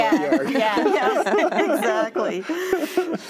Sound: all laugh

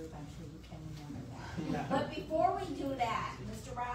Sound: audience laughs

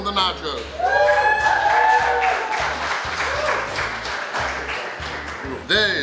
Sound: cheering & Clapping

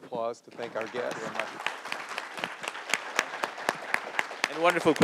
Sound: audience applauds

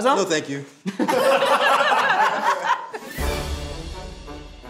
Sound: group laughs; bright orchestral music

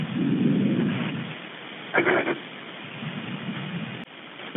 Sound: crying

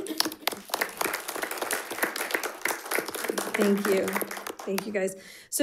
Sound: audience applauding

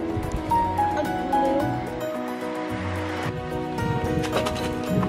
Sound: laughing

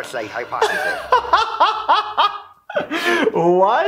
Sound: boisterous laughing

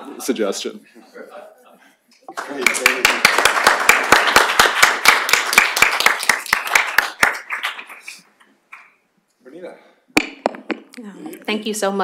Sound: laughter; applause

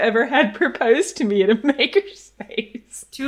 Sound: laughs

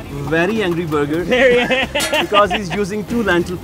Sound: laughs

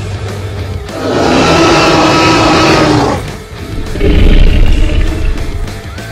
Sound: dinosaur roaring

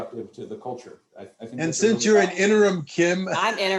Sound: laughter

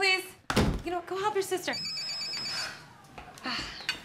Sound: phone ringing

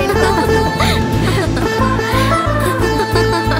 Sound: laughs

